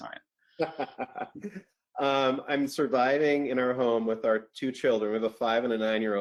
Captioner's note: laughs